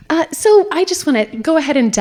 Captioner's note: none